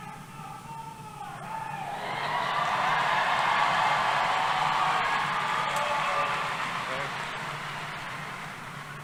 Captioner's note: cheering